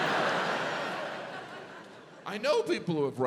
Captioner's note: audience laughs